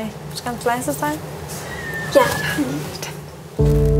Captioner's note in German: Quietschender Schrei